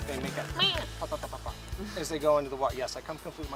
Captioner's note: high-pitch squeak